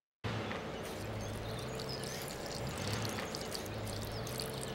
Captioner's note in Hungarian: pee whizzing